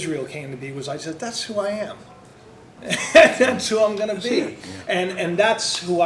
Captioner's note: laughs